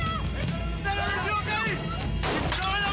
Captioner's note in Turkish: Bağrışmalar; Kurşun sesi